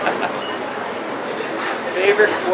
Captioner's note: laughs